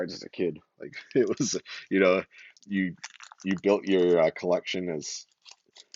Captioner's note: laughs